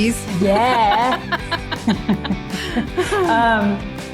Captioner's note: laughs